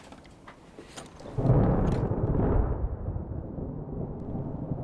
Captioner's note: thunder